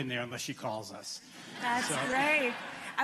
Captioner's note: laughter